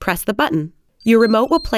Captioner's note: beeping